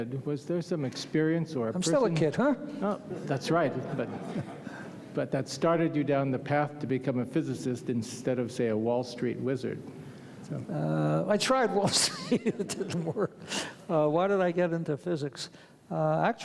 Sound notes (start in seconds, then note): 3.6 audience laughs; 12.0 laughs